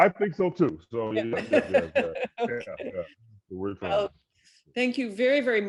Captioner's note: both laughing